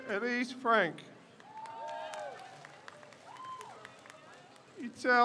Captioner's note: crowd cheers